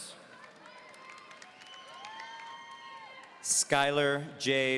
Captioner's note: audience applauding